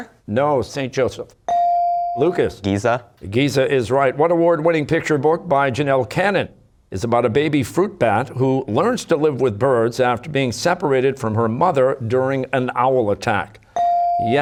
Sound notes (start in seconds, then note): none